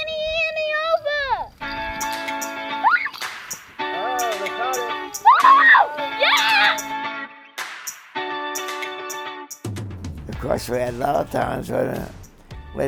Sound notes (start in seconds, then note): 3.8 child screams; 5.6 child cheers; 7.5 upbeat music